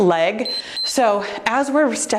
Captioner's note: timer beeps